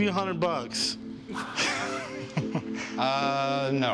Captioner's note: laughs